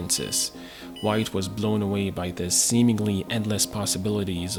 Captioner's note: old-school computer beeps